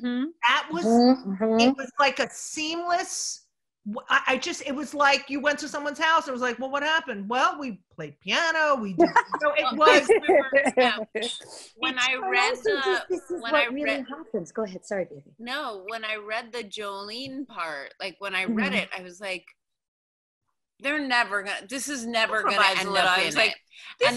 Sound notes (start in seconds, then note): 9.6 laughs